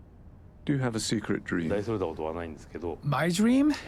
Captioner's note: voiceover